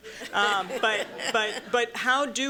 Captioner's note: laughter